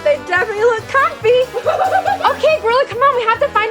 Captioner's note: exciting gorilla sounds